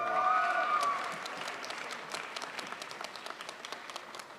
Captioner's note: crowd applauds